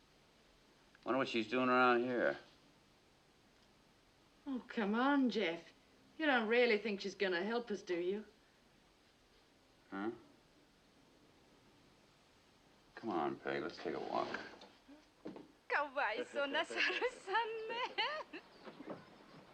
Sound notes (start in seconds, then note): 15.5 speaking japanese